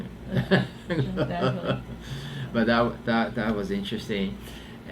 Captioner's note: laughs